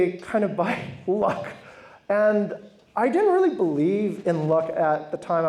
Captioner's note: laughs